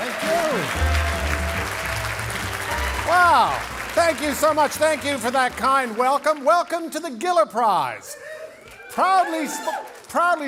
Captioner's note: cheering and Applause